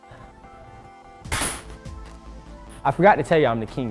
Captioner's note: ping pong balls bouncing